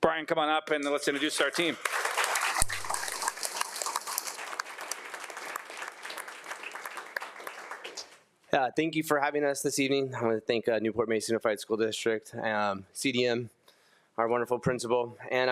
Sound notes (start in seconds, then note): 1.0 everyone applauding